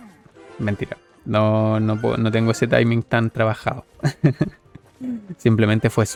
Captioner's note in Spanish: risas